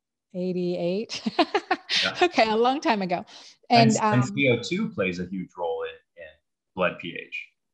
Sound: chuckles

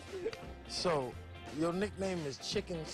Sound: laughter

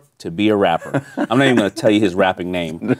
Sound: laughing

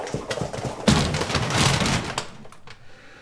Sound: crashing sounds

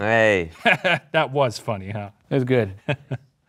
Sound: laughs

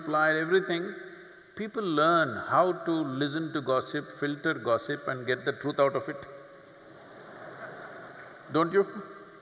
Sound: laughter

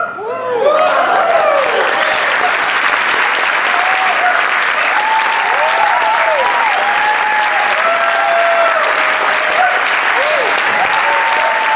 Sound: applause

